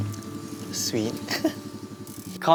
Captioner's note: chuckles